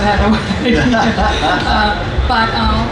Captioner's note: laughing